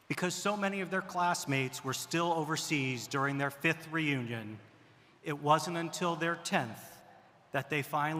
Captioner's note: none